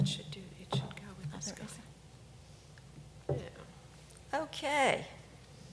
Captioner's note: ladies whispering quietly